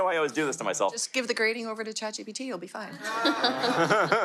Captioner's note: audience laughter